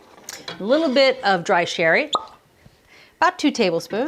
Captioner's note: corks pops